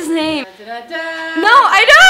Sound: off-screen voice starts humming theme

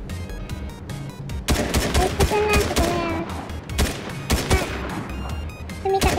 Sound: sound of gunfire

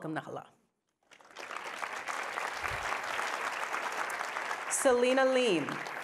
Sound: audience applauding

